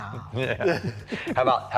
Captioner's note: chuckling